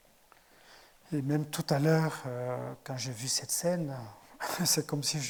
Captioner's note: speaking in French